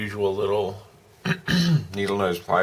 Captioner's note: clears throat